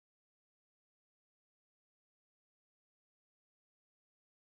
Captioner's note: none